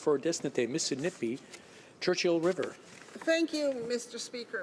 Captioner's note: speaking French